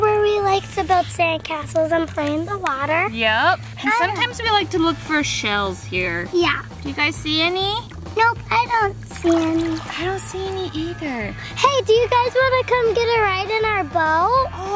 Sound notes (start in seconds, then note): 9.2 water splashing